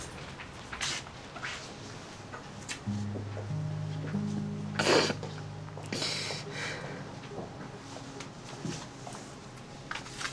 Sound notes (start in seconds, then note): 5.8 sobs